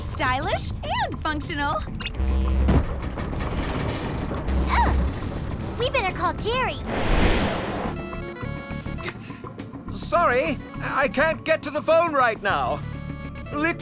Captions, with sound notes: Ohh! We better call Jerry. [PHONE RINGS] Sorry, I can't get to the phone right now. Literally. He's not answering!